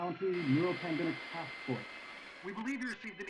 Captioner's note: now from radio